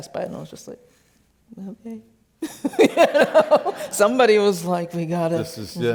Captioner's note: laughs